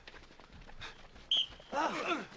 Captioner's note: grunting; whistle blows; grunting